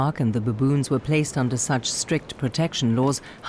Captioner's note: none